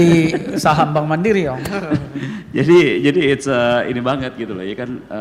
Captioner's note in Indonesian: tertawa; tertawa